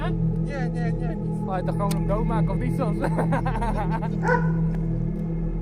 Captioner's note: laughs; dog barks